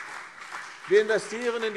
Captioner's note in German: Beifall CDU und BÜNDNIS 90/DIE GRÜNEN